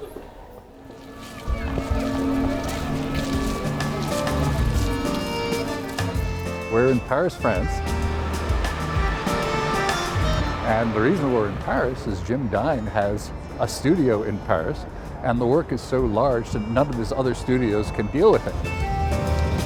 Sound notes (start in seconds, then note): 0.2 laughing; 1.5 police sirens "pin pon, pin pon"